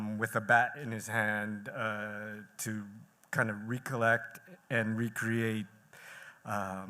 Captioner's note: none